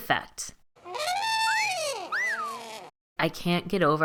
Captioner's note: trumpet and cartoon whistle sound effect